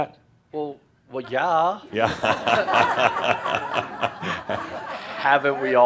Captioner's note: laughter